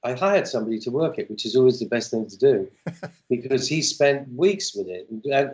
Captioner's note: laughter